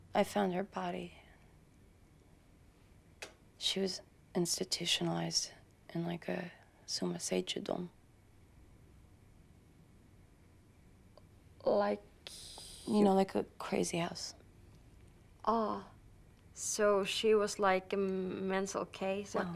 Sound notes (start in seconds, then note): 6.8 speaking in a foreign language